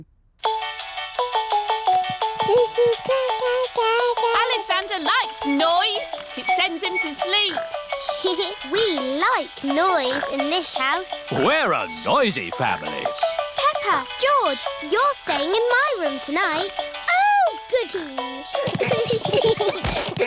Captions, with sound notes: (MOBILE PLAYING LOUD MUSIC) (COOING) Alexander likes noise! -It sends him to sleep. -(GIGGLES) We like noise in this house. We're a noisy family. Peppa, George, you're staying in my room tonight. Oh, goodie! (ALL GIGGLING)